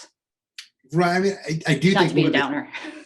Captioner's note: chuckles